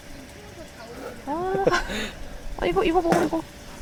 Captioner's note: laughing